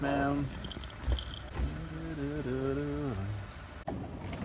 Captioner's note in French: il fredonne